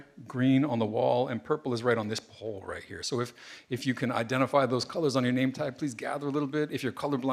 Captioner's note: none